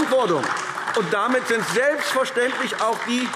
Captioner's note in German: Beifall AfD